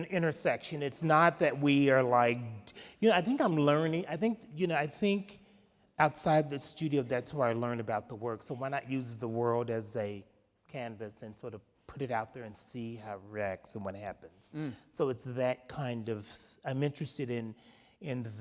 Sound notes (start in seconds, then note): none